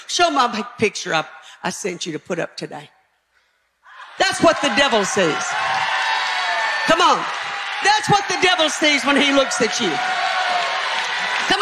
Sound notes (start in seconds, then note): 5.8 audience cheering